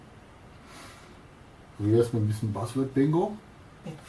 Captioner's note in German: Aus dem Off